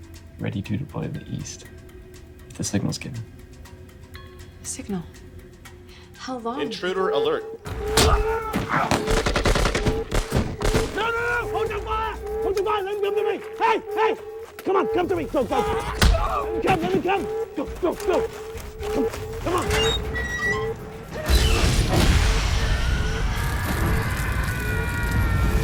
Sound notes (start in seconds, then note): 7.7 alarm blaring; 7.9 guns firing; 15.6 man screaming; 18.8 door creaking; 22.6 Viggo screaming